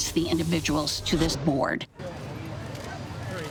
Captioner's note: people chattering